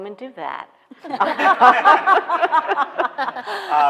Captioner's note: laughing